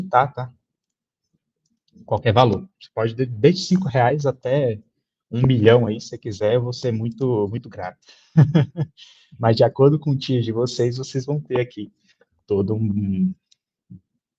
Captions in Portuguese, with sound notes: editar, tá? Qualquer valor. Você pode-- Desde cinco reais até um milhão, se quiser, eu vou ser muito, muito grato [risada]. Mas de acordo com o tier de vocês, vocês vão ter aqui todo um...